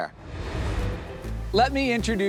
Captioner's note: air whooshes